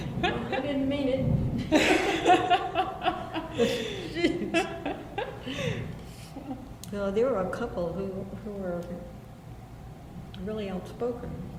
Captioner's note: BOTH laugh